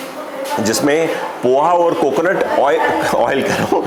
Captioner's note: laughter